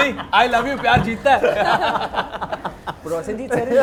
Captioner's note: laughs